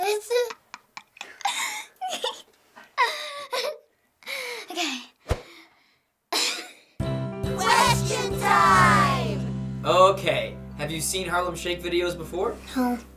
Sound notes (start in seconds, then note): 0.9 laughing hard; 3.5 breathlessly; 6.2 laughing